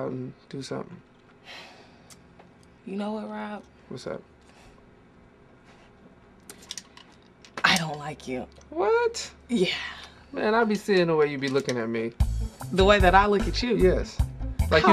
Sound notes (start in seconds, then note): none